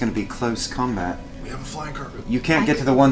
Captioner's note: whispers